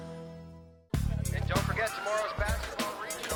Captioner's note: PA System